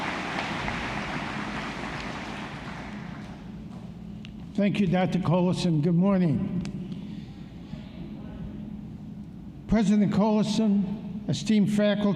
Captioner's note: applause